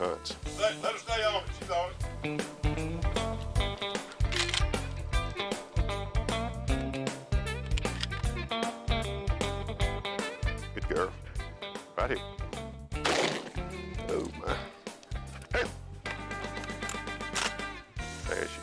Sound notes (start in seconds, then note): 2.8 bluegrass music; 13.0 gun shot